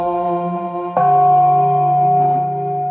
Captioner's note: bell ringing; singing chant